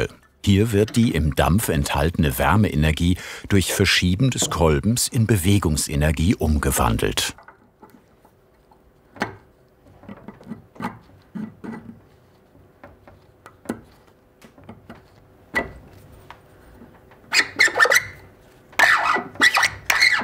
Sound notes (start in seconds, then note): 14.8 metallic sound; 17.0 scraping sounds